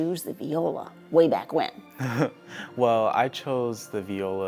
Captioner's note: laughs